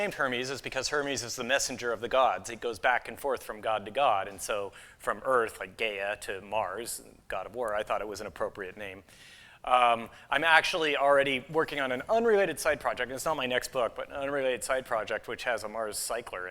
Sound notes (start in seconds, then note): none